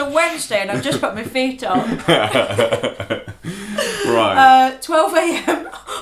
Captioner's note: laughter